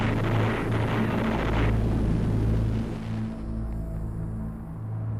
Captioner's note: gunshots booming